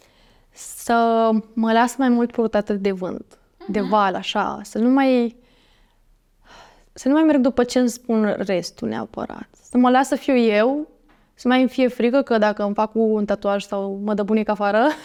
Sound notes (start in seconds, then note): 5.8 exhales